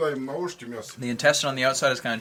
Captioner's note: man speaking in foreign language in background